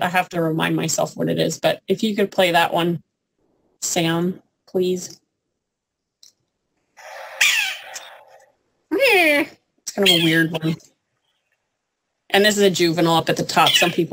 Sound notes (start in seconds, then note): 7.0 sound effect